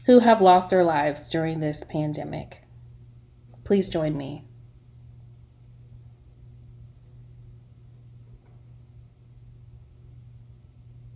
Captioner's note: silence